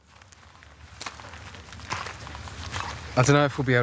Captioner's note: footsteps